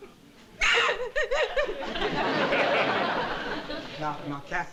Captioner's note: sobs